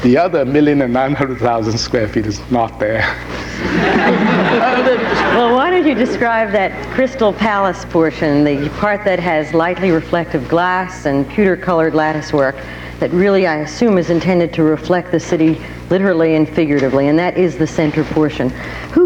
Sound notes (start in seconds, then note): 3.4 audience laughing